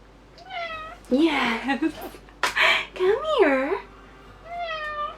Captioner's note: cat meows; more sassy cat meows